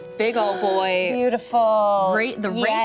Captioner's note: gasps